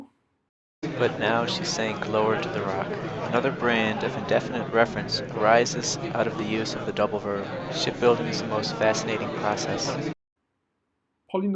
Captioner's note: playing noisy signal